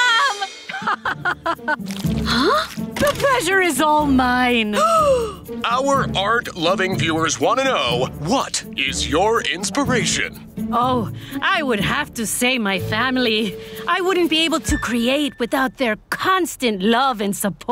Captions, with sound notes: [laughing] - Huh? - The pleasure is all mine. [gasping] Our art-loving viewers want to know what is your inspiration. Oh, I would have to say, my family. I wouldn't be able to create without their constant love and support.